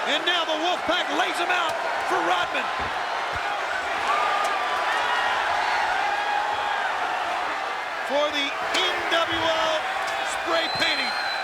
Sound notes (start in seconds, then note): 4.9 audience cheering